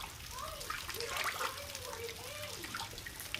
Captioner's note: chatter